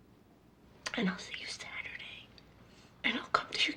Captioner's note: whispers